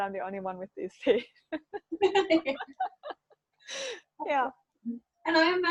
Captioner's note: laughing